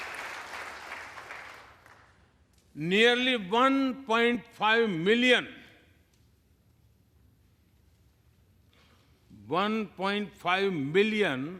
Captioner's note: applause